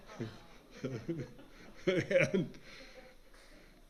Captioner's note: laughs